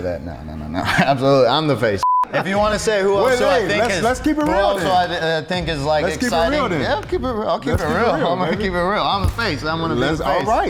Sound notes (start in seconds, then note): 0.0 laughing; 2.0 high pitched beep